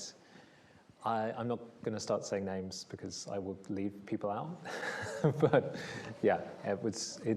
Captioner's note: laughs